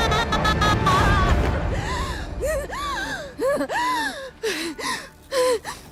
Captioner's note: gasping and sobbing